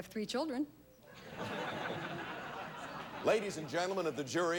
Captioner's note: audience laughing